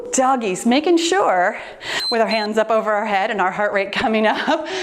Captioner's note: timer beeps